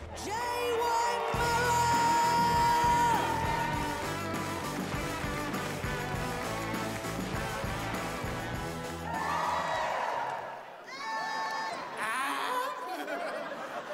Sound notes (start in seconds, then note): 9.0 audience cheers; 10.9 front audience cheers; 11.8 laughs